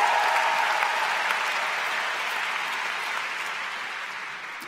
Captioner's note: cheers & Applause